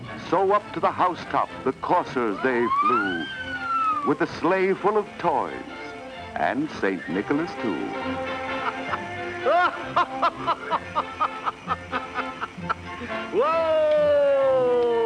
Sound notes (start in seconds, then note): 8.6 jolly laughing